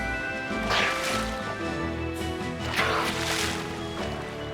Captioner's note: splashing